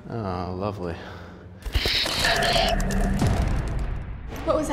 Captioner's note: screeching, wings flapping